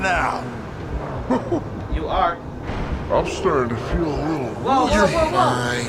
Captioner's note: low pitched